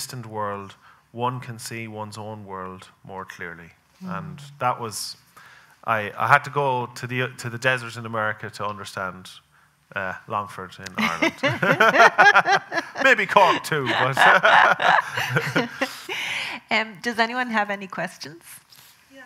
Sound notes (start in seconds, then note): 11.0 both laughing